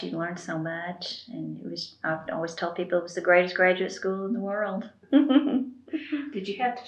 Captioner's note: laughs